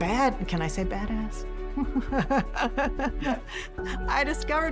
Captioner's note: whispers; laughs